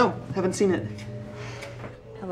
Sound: sighs

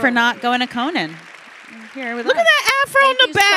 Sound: audience applauding

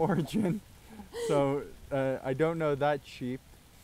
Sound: laughs

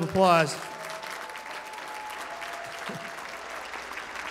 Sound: applause

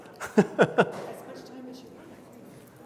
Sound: laughs

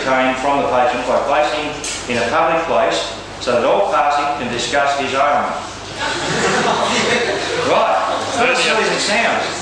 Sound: laughter

